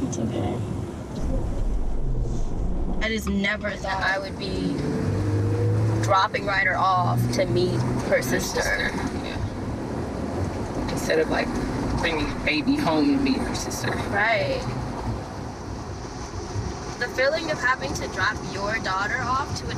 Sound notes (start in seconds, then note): none